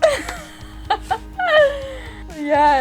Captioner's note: laughing